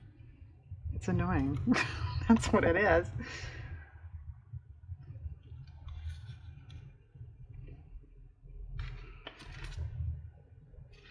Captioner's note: laughs